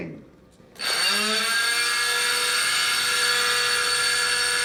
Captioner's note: power tool buzzes